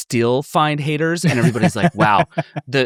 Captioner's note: laughing